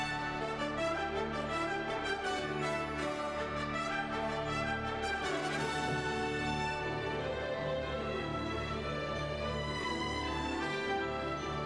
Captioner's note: applause